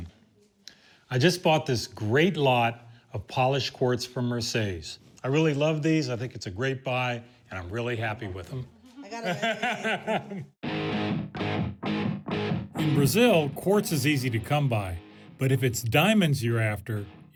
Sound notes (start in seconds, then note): 8.8 laughs